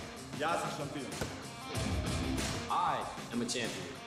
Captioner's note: speaking foreign language